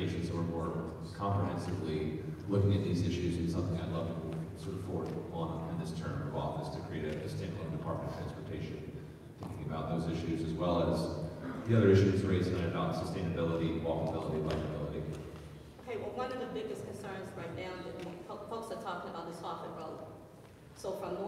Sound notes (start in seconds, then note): 11.6 speech muffled by extreme echo